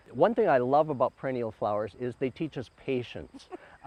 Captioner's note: laughing